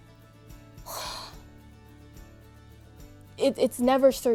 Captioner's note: exhaling